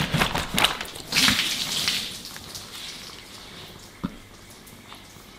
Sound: lemonade splattering wetly

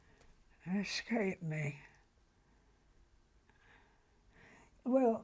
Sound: pauses for 3 seconds

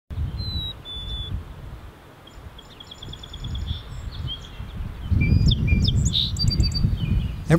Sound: bird singing

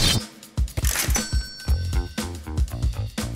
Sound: knives swooshing; cash register dinging; funky base music

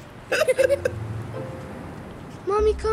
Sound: laughing

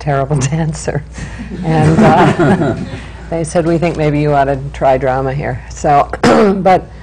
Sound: laughter

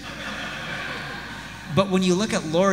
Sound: audience laughs

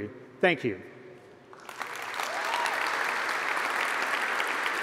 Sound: applause

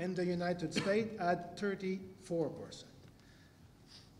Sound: cough

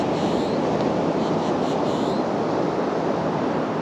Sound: the calls of Boat-tailed Grackles calling

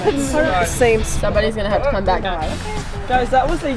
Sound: voiceover

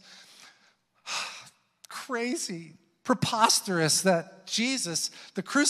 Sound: sighs

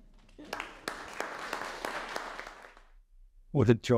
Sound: audience applauding

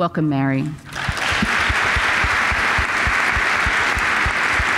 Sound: applause

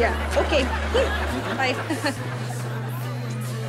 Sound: forced chuckle

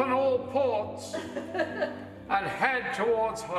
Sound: laughter

